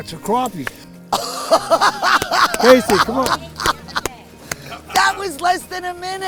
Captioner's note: laughs